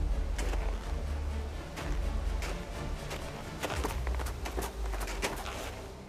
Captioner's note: daunting music; footsteps crunch